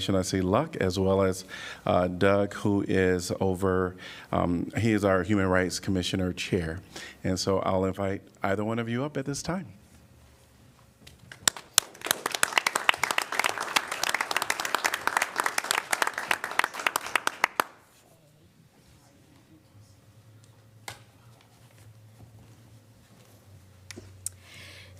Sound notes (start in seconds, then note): 11.2 applause